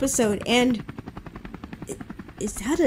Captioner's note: helicopter whirring offscreen